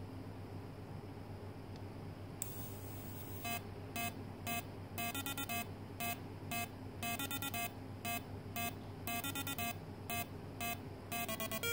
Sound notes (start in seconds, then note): 1.7 click